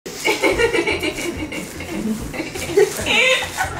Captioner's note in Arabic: فتاة تضحك